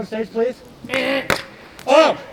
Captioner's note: buzzer buzzing